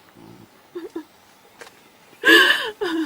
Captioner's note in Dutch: huilt